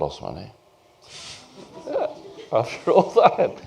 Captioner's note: laughter